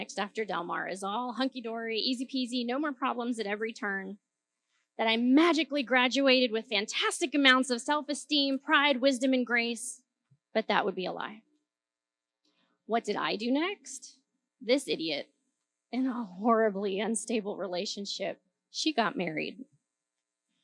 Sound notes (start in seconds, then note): none